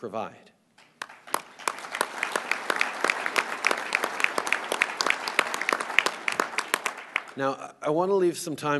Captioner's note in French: Applaudissements